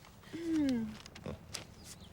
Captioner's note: Eliza clears throat